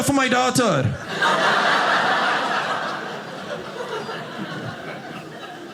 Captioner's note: audience laughing